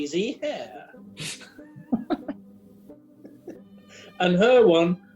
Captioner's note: giggling